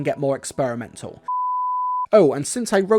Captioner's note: beep